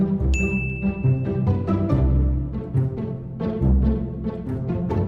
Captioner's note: bell chiming